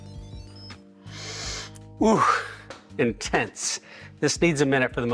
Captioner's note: sniffing